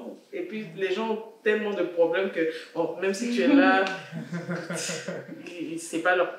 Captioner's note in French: rires